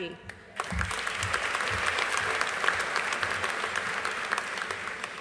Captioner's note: audience applauding